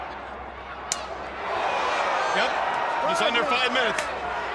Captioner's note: crowd cheering